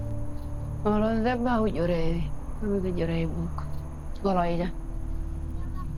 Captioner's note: speaking in foreign language